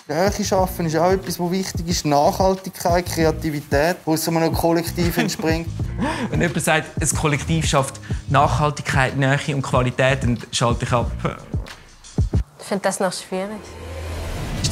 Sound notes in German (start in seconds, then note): 4.9 Lacht